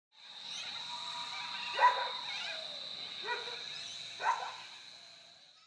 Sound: the sounds of insects and evening birds, plus a dog barks twice in the distance

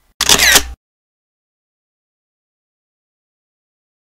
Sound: camera shutters

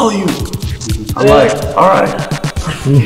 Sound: all laugh

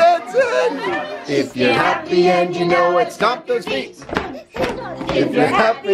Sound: crowd

